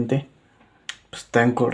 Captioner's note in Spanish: Silencio